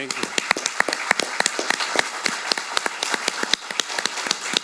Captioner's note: audience applauding